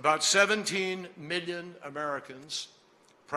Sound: none

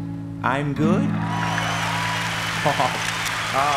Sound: applause; chuckles; cameras click

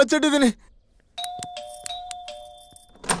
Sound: door bell rings

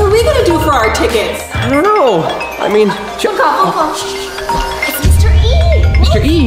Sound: beeping noises

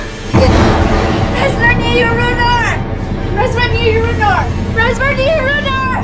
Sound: speaking in foreign language

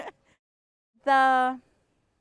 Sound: laughs

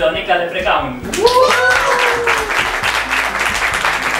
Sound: applause

